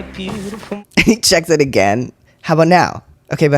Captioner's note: laugh